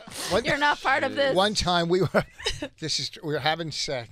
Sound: laughing

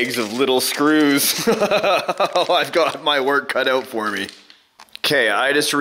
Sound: laughs nervously

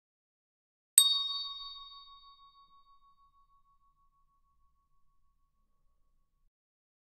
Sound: sound of hand bell

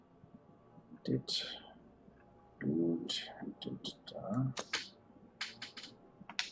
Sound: counting wordlessly

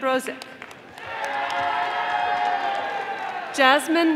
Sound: audience applauding

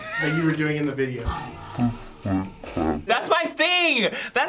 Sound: laughing in slow-mo

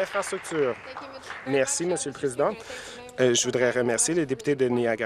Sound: applause

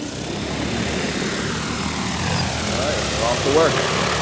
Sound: drone buzzing

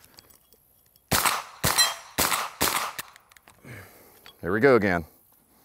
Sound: gun firing and hitting plate repeatedly

